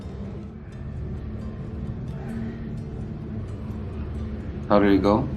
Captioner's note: traffic noise